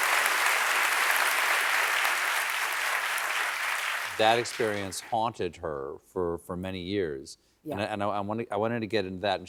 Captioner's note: applause